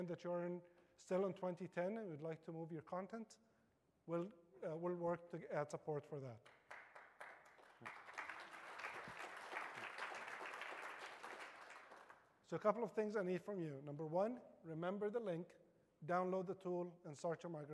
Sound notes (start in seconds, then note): 11.8 applause